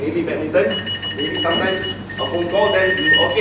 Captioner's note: phone ringing